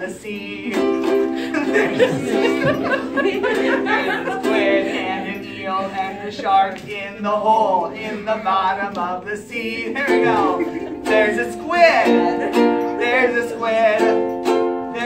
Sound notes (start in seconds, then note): 1.3 laughter